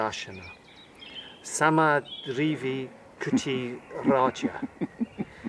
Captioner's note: laughter